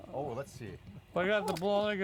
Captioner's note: laughing